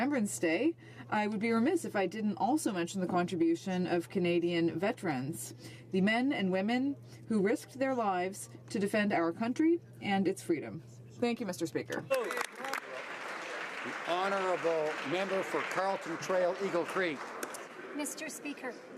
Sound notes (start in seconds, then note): 15.5 some Applause